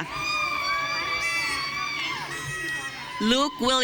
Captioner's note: audience cheering